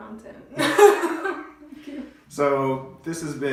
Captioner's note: laughing